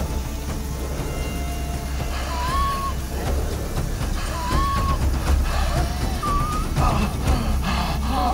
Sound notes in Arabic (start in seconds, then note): 2.0 نيك يلهث; 2.5 موسيقى متوترة